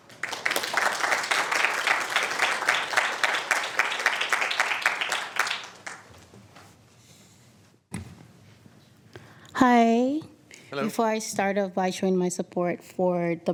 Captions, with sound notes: I WOULD URGE YOU TO CONSIDER THAT. THAT. >> THANK YOU. >> THANK YOU. [APPLAUSE]